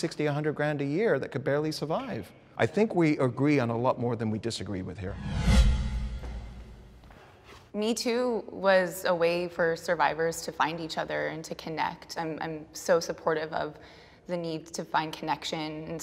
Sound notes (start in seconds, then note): 5.0 wind swooshing